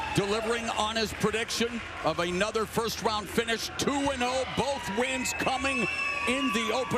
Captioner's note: cheers and applause